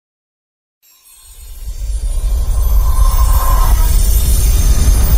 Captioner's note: wind chimes